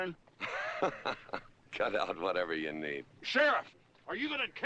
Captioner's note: chuckling